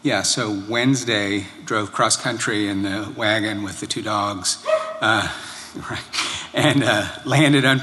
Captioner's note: laughter